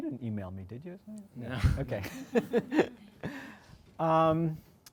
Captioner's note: laughs